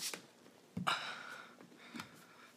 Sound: sigh

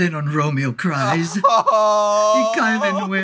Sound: Romeo sobbing

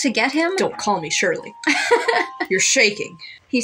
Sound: laugh

